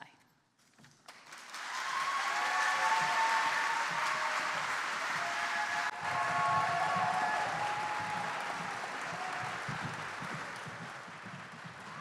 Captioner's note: applause